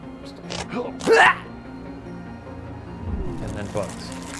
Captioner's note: grunt; spiders scurrying